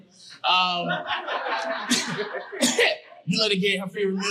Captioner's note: audience laughing